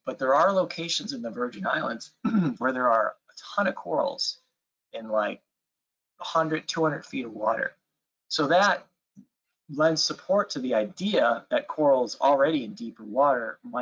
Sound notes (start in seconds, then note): 2.2 clears throat